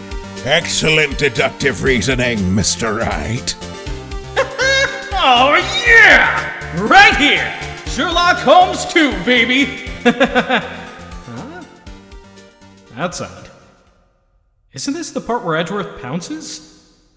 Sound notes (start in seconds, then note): 8.4 hahaha… Huh?